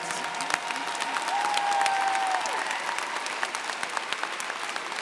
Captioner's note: crowd applauds and cheers